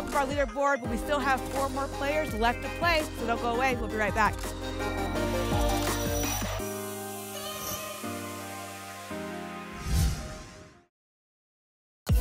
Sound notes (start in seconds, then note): 9.7 whoosh